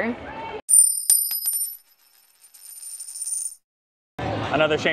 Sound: coin dropping

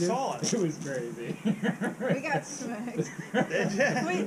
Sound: laughs

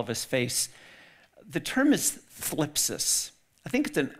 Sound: speaks in foreign language

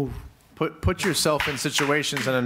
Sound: audience applauds

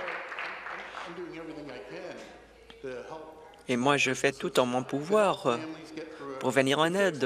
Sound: applause

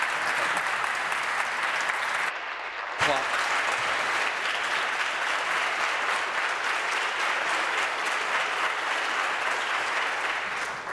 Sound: applause

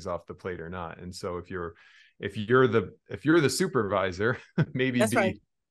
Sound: chuckles

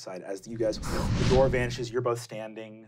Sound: wooshing

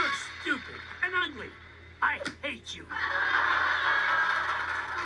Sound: audience laughs

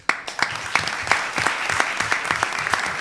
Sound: applause

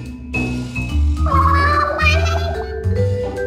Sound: Sad Inkling noise

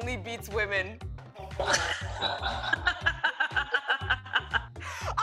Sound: laughter

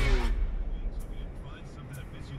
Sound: radio Announcer

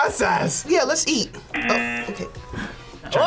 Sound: buzzer

